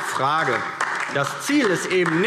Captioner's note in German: Beifall DIE LINKE